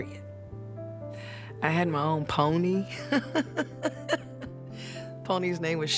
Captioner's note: laughs